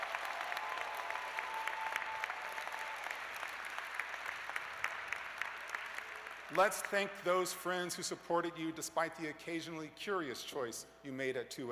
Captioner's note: cheers and applause